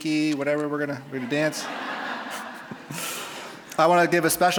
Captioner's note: audience laughing